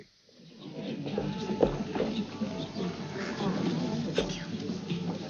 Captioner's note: people chattering